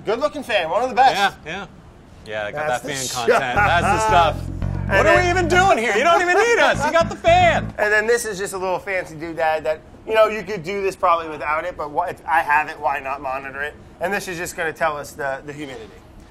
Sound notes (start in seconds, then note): 2.9 laughing; 6.9 laughter